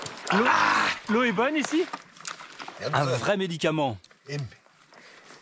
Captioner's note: foreign spoken audio